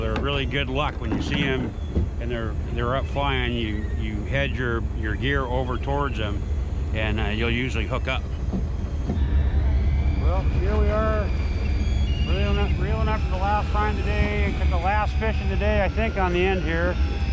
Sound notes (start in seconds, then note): 3.2 water lapping